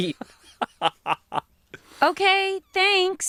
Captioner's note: laughs